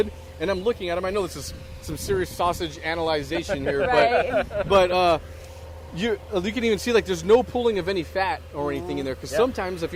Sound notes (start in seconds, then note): 3.4 laughs